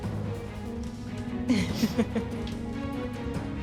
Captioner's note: judge laughing